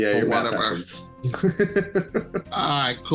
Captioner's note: laughs